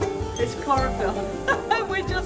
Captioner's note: laughing